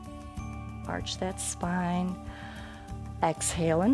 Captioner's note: exhales; inhales